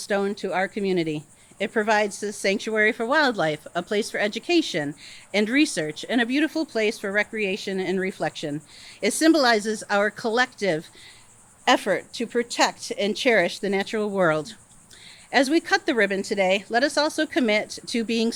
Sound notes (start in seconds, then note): none